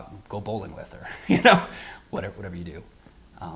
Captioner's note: laughs